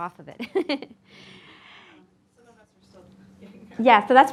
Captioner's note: laughing